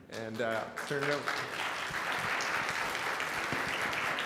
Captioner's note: applause; crowd